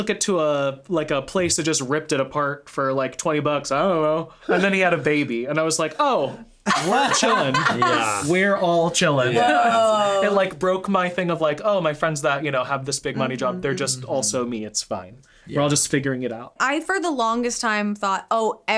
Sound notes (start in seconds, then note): 6.6 all laughing